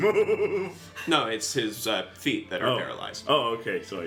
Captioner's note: laughs